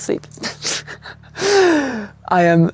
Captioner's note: laughs